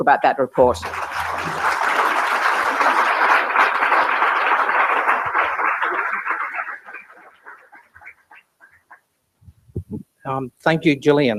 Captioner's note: applause